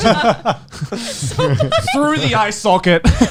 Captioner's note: laughing